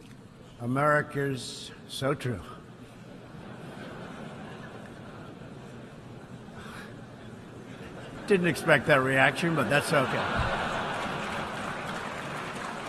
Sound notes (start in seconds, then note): 3.2 laughter